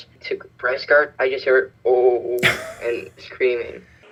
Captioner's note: laughs